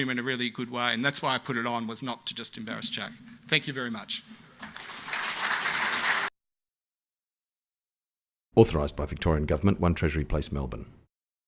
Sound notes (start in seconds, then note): 4.6 audience applauds; 8.7 voiceover